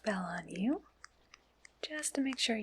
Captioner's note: tapping sounds